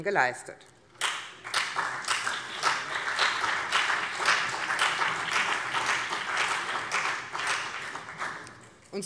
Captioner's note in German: Beifall BÜNDNIS 90/DIE GRÜNEN und vereinzelt CDU